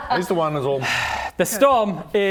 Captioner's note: sigh